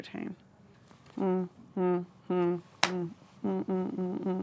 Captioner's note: humming